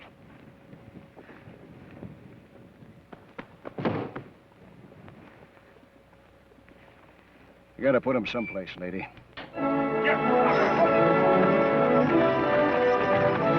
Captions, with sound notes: (foot thuds) - I gotta put 'em someplace, lady. (dramatic orchestral music)